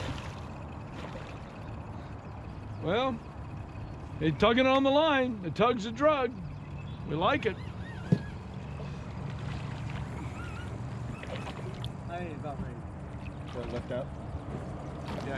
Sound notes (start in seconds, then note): 0.0 fish splashing; 7.8 reel cranking; 12.7 fish splashing